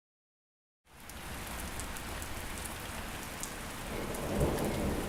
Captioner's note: rain splashing